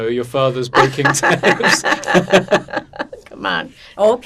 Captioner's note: laughing